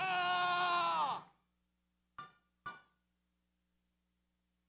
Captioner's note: man screams